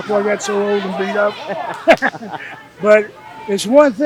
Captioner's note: laughing